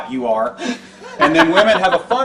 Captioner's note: host laughs; audience laughs